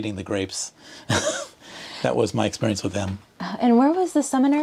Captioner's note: laughter